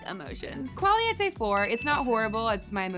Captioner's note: bell ringing